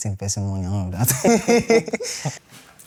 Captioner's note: laughs